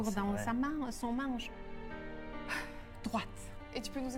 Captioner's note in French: soupir